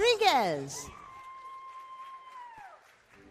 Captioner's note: cheering